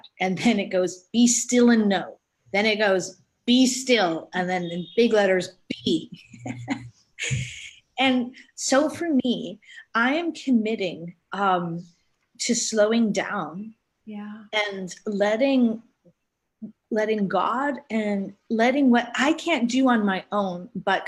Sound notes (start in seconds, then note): 6.2 both laughing